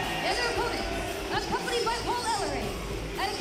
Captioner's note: crowd cheering